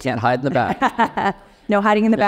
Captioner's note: laughing